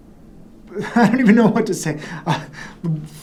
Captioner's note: laughs